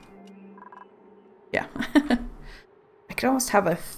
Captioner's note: laughs